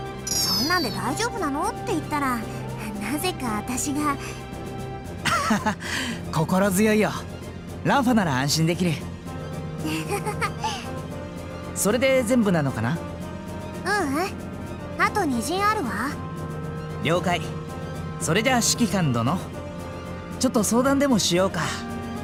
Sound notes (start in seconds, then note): 5.3 awkward but relieving laugh; 10.0 awkward but relieved laugh